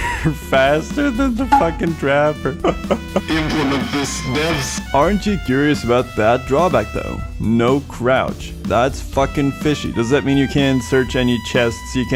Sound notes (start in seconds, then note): 3.2 laughs